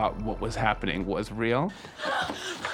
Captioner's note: actor screams